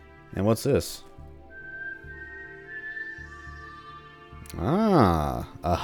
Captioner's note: Hunger Games whistle